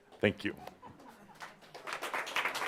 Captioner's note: audience applause